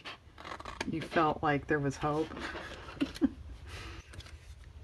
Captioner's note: laughs